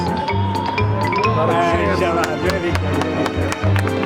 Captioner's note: non-english speech; applause